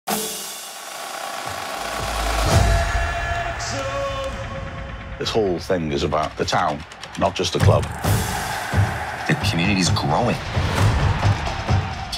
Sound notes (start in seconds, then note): 0.0 drum roll; 8.0 cheers